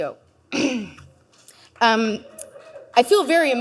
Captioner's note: clears throat